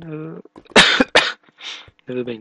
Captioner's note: coughing